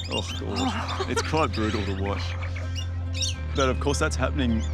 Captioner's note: chuckles